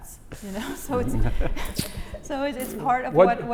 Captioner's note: laugh